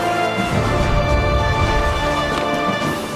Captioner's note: dramatic music; low whooshing; dramatic music